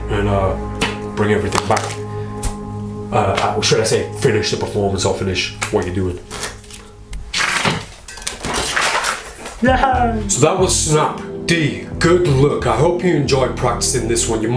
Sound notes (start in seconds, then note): 6.2 cards shuffling